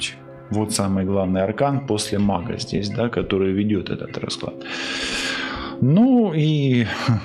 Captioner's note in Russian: тяжело вздыхает; вздыхает